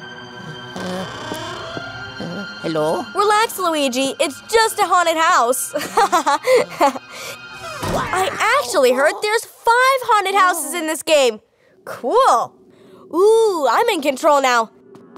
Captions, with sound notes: [music intensifies] -Hello? -Relax, Luigi, It’s just a haunted house. [chuckles] I actually heard there’s five haunted houses in this game. Cool! [music diminishes] Ooh, I’m in control now.